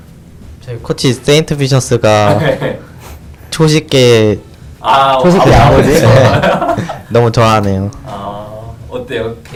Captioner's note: laughs